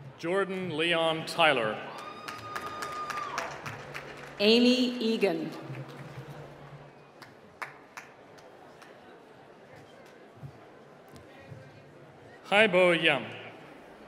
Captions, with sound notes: - Jordan Leon Tyler. (applause) - Amy Egan. (applause) - Haibo Yung